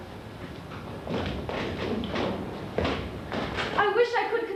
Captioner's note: heavy footsteps